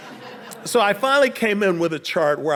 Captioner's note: audience laughing